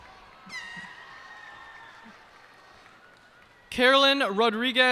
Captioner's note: cheers and applause